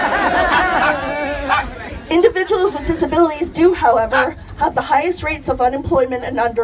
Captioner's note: laughter